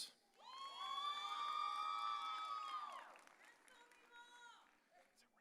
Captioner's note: audience cheering